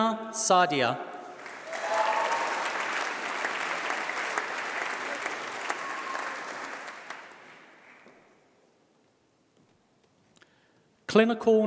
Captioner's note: applause